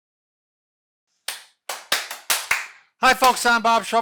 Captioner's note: clapping